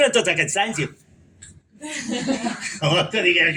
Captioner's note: audience laugh